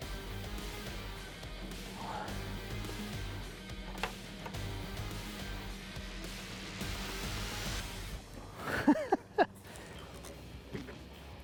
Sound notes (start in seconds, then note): 0.1 suspense music; 3.8 metal clicking; 8.5 laughing